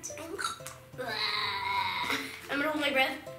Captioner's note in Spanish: gemidos